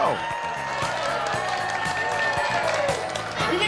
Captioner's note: applause